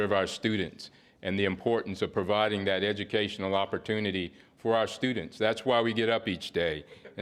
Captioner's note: laughter